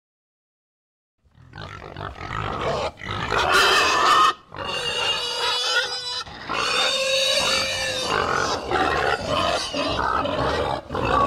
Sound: sound of pigs

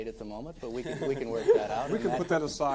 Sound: all laughing

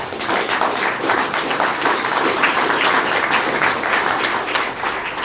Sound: clapping

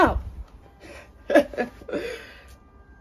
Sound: laughs

